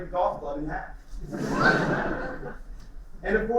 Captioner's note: laughter